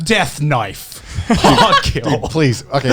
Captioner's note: chuckles